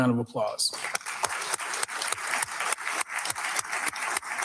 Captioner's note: all clapping